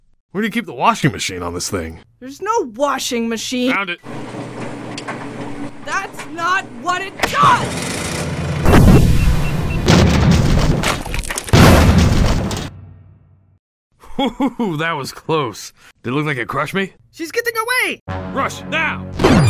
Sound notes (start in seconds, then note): 4.1 motor whirring; 7.5 lever clicks; 7.6 motor drones; 8.7 missiles clap; 8.7 rocks crack; 11.9 rocks crash; 18.1 ominous music